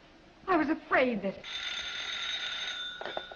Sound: phone rings

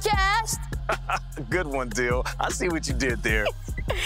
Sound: chuckles

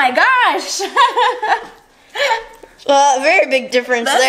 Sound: giggles

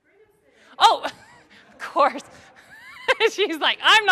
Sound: laugh

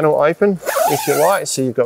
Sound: zipper pulls

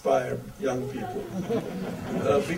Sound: audience laughter

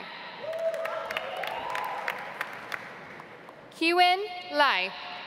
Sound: audience applauds

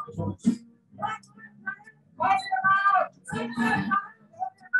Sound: muffled shouting

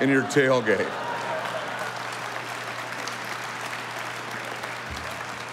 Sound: audience applauding

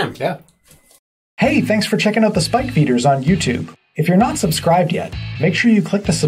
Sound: voiceover

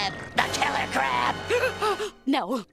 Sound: gasps

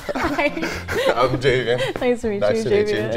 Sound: laugh

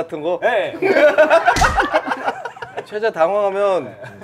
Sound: laughing

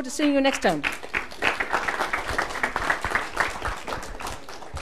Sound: applause

